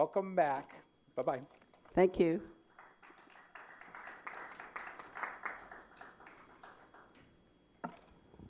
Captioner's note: applause